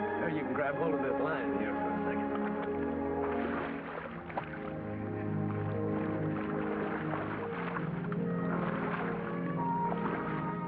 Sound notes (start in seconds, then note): 3.1 dramatic music; 3.1 water splashes